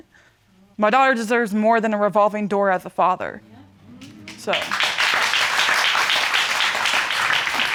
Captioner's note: audience clapping